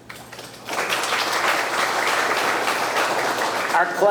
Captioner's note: audience clapping